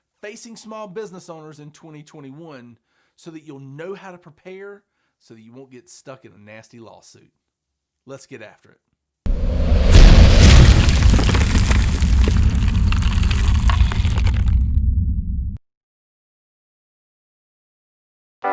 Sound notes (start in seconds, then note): 9.3 thunder rumbling